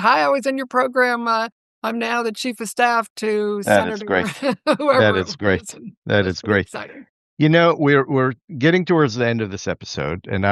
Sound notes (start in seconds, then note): 4.9 laughter